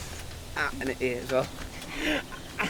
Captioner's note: gasps in pain